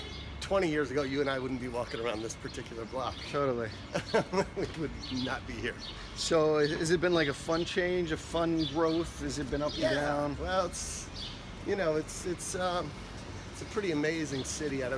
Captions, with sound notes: twenty years ago you and I wouldn't be walking around this particular block. - Totally. (chuckles) - We would not be here. - So has it been like a fun change, a fun growth? Has it been up and down? - Yeah. Well, it's a pretty amazing city.